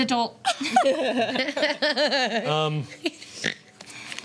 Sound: laughter

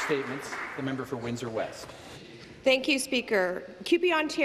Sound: applause

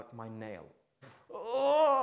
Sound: screaming

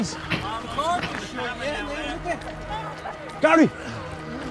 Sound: crowd chattering

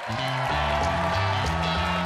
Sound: audience applauds; upbeat music

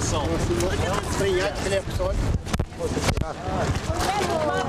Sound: non-english speech

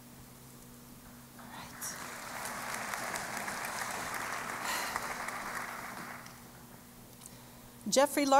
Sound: applause

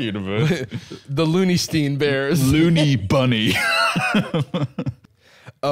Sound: laughs

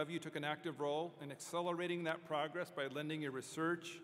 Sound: none

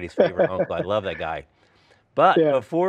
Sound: laughs

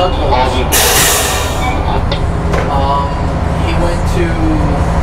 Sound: machinery sputters

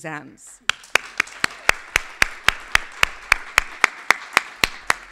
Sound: everybody clapping

